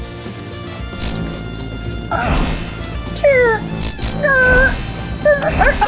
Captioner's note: crunching; light saber buzzing